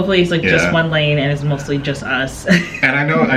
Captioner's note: laughing